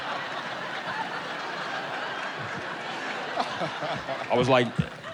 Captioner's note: audience laughing